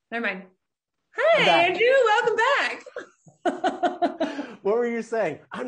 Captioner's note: laughing loudly